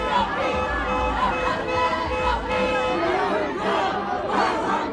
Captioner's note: car horn honking